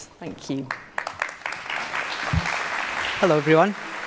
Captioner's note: applause